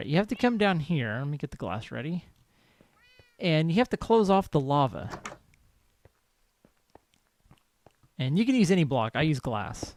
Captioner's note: cat meows